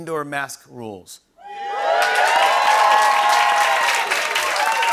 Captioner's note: cheering and applause